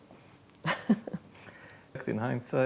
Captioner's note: laughs